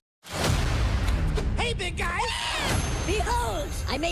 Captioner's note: screams